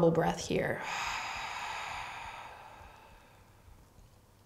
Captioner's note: exhaling breath